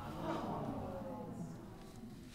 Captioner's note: audience groans softly